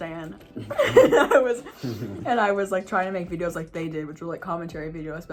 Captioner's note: laughs